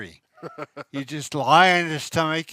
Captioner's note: chuckles